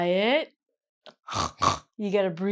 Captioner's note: snorts